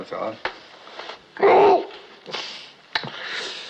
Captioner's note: groans